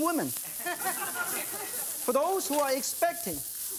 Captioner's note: audience laughing